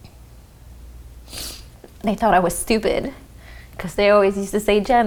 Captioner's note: sniffs